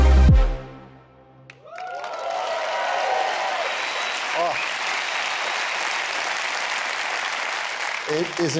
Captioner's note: applause